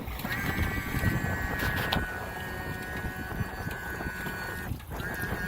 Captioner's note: motor begins whirring